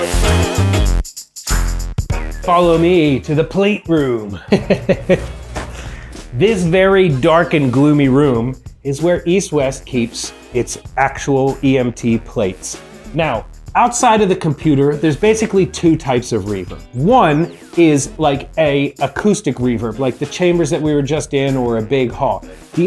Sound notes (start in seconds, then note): 0.1 upbeat music; 4.2 laughs